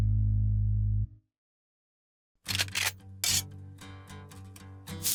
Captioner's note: gun cocks; sizzle